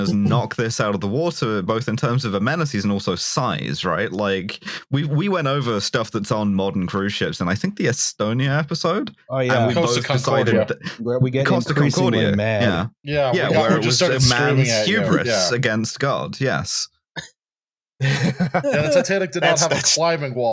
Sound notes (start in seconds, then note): 18.0 laughs